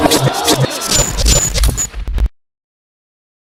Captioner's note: TV static